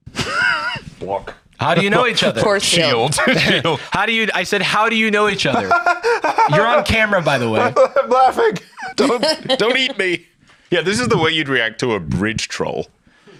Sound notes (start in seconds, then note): 1.6 laughs; 5.3 laughs nervously